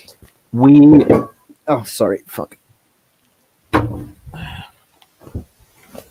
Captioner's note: sound of something falling